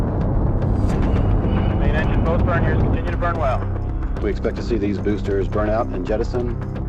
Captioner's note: dramatic music; rocket engine roaring